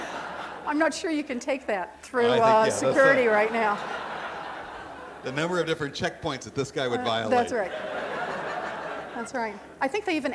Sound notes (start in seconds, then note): 8.5 crowd laughing